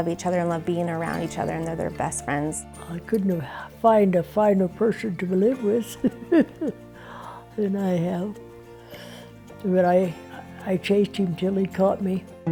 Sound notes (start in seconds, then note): 5.9 laughs